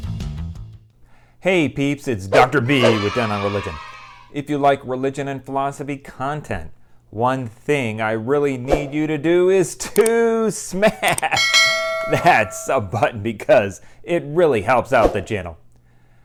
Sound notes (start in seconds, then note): 2.4 kids cheering; 11.3 bell ringing